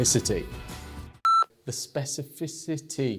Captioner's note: beep